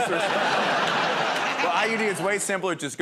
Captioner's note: laughter